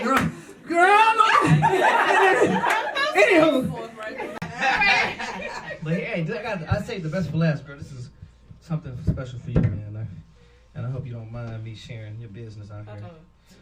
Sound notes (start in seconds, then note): 4.6 audience laughing